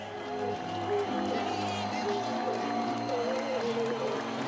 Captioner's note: audience clapping